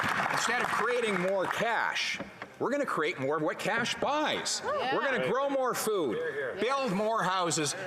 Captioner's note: applause